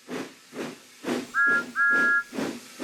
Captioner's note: toot toot